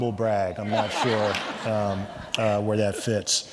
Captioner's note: everyone laughing